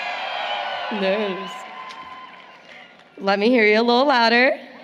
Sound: applause, Cheering

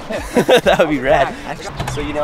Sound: laughter

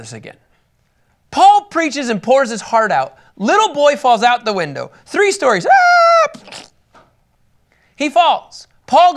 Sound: screams

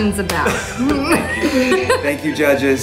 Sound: laughing

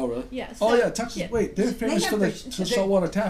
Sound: voiceover

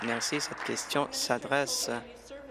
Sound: applause

